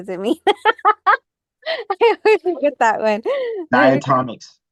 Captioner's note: laughs